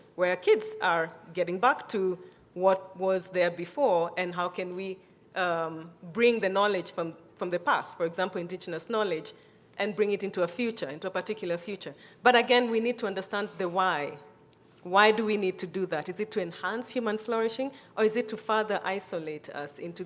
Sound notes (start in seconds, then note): none